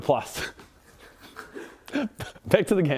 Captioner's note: sniggering